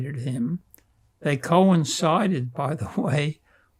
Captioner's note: laughing